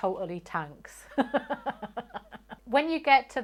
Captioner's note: laughs